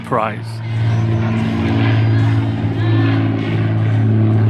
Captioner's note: engines Roar